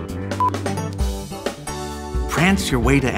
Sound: beep

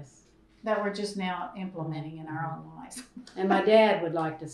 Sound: laughs

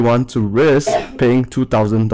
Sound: people couughing in the background

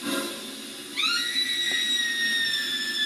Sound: scream

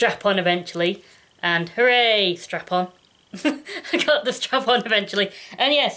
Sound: laughs

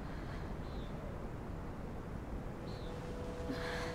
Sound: distant sound of waterfall

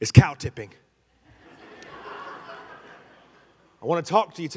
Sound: congregation laughing

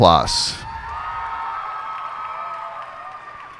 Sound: cheers and applause

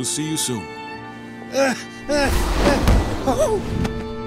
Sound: grunting

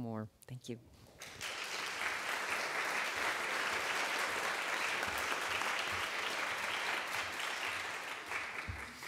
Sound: audience clapping

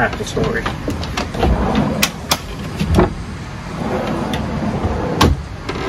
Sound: drawers scrape open and closed

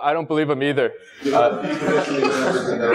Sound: laugh

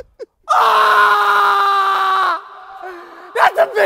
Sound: laughing; screaming

